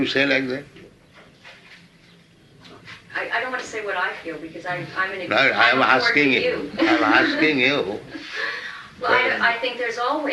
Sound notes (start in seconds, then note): 6.7 laughs